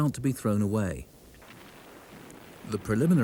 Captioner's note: cannon blasts